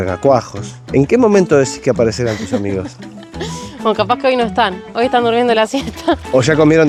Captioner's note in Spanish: risas